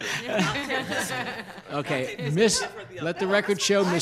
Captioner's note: laughing